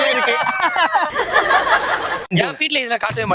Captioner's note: laughs